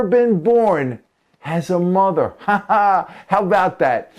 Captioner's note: haha